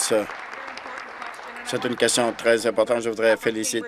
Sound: applause

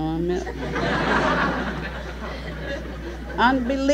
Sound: laughter

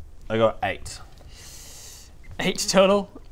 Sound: excited wince

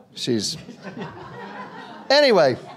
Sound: audience laughter

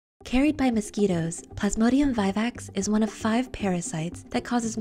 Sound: voice-over

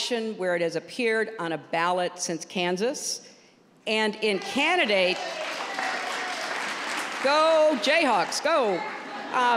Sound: applause

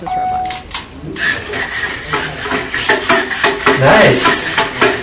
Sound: mechanical shuffling

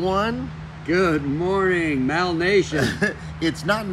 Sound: laughs

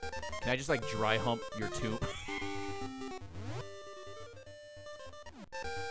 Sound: laughs

